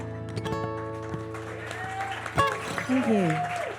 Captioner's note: attendees cheering